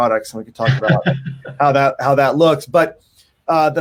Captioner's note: laughs